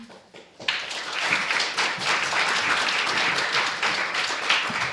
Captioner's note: applause